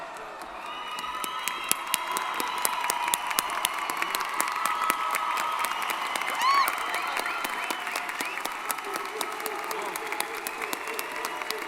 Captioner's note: applause & Cheering